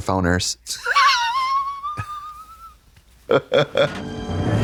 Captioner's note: Katya rasps; Trixie chuckles; dramatic music